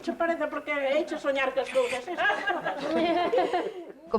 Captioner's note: laugh